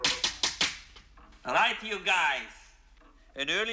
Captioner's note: Избивает стол